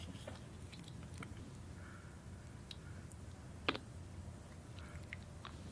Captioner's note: squishing sound